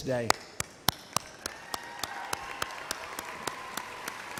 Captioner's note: applause